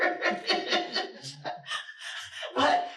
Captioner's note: laughter